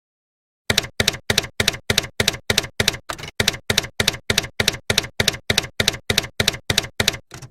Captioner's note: typewriter keys clacking